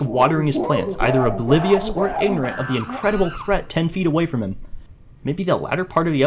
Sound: sounds of ever increasing & muffled monkey threat in the back

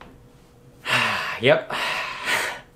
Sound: sigh

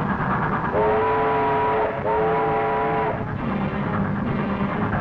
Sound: train horn blowing

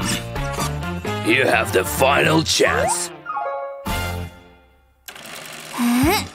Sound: groans; moaning

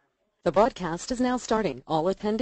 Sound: computer Voice

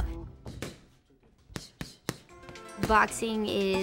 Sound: gloves thumping; light music

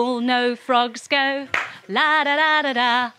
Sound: claps

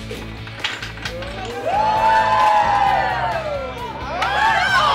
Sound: cheering

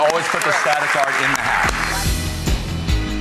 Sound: clapping; punchy upbeat music

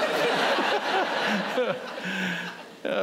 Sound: laughter

